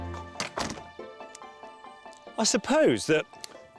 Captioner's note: door lock clicks